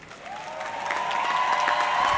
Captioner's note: audience cheering; audience clapping